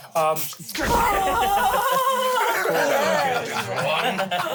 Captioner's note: everyone cheers